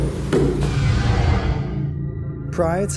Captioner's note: whooshing